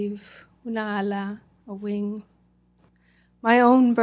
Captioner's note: non-english